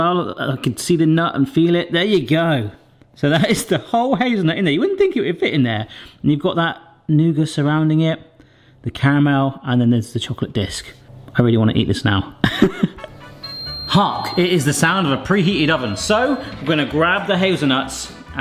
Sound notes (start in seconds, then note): 12.4 laughs; 13.1 oven beeping